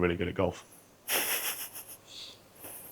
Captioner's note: snickers